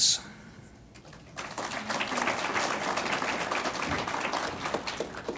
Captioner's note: audience applauds